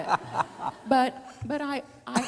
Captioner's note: laughing